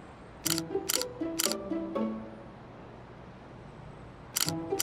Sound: camera lens shutters

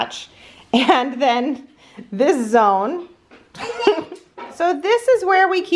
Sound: laughs

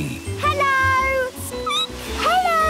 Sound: squeaking

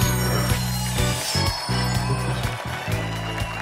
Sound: studio audience applauds

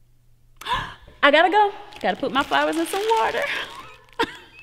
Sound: gasps; giggles

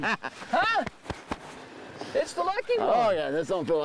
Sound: laughing

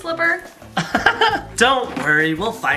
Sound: laughing loudly

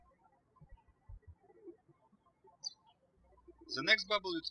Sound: birds chirping

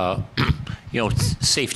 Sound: clears throat

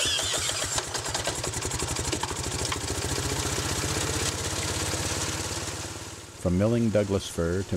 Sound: engine roars to life

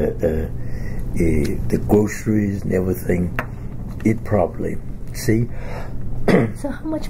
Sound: coughs

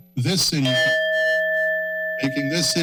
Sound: time up bell

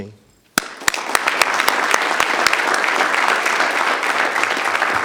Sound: audience applause

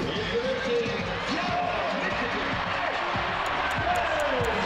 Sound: crowd cheering

